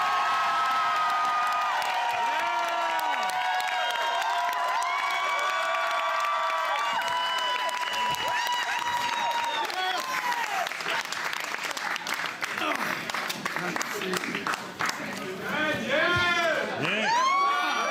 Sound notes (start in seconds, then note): 0.0 speaking French; 3.2 cheering